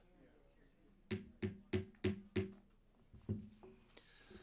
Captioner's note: gavel knocking